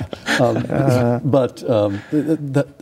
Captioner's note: laughing